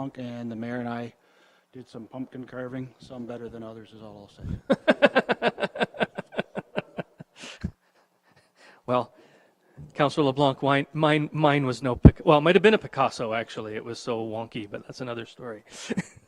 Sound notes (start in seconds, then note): 4.5 mayor chuckles; 15.8 mayor chuckles